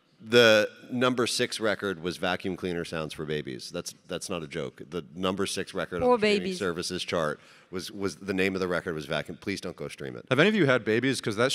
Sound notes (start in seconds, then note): none